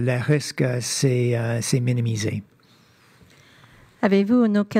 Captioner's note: speaking French